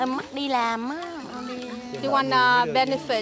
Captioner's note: foreign language spoken